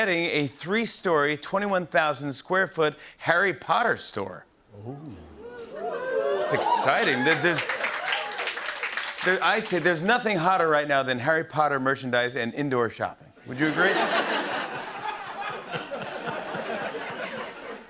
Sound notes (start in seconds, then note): 4.8 audience oohs; 5.4 cheers and applause; 13.6 laughter